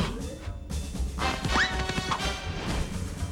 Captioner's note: whistle! pop!